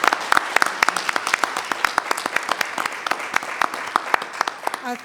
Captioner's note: all applauding